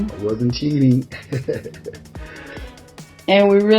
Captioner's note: chuckles